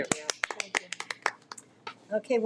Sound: audience clapping

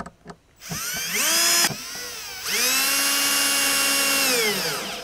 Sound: drill whirring

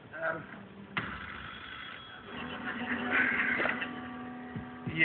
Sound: phone rings

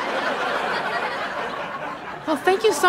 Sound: audience laughter

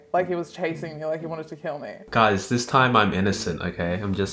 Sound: none

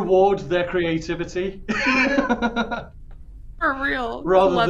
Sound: laughs

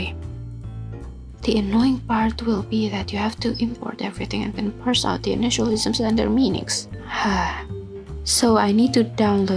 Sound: sigh

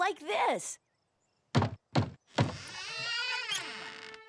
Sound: louder knock

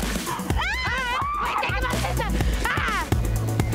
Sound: screaming

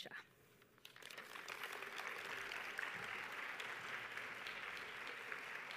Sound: audience applauding

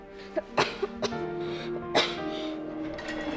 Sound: somber music; coughing

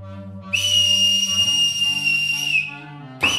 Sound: shepherd’s whistle

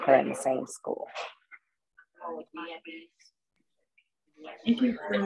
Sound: people talking at the background

